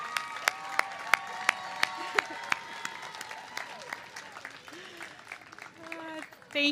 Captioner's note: cheers and applause